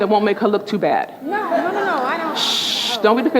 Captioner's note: shushing; speaking faintly